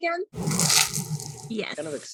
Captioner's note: crunching